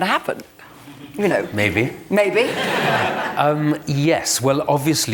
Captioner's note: laughter